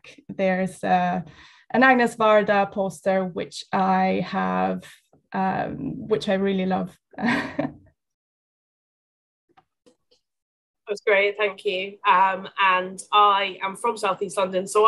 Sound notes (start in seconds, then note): 7.3 laughs